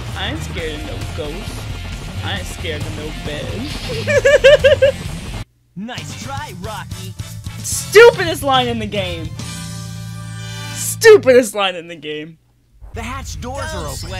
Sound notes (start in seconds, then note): 3.8 laughter; 9.4 victory music